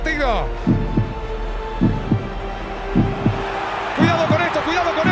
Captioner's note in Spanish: latidos de corazón